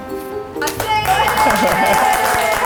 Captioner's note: applause